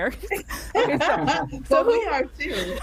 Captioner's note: laugh